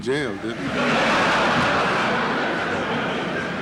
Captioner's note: laughter in courtroom